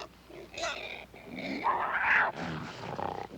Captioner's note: snarling